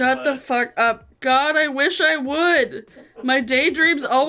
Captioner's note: laughs